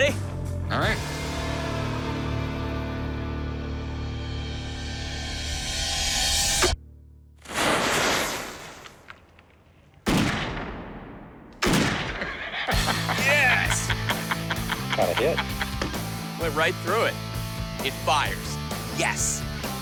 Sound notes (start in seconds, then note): 6.9 gun shooting; 12.2 laughter